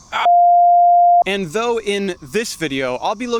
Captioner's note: beep